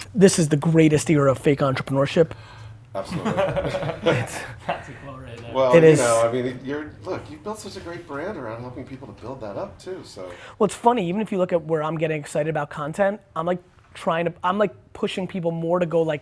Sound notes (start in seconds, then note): 3.0 laughs